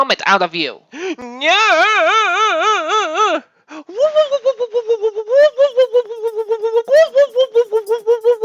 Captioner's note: scream